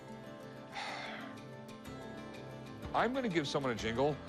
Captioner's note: sighs